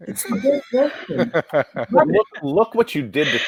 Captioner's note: laughs